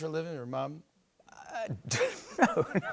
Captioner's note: laughs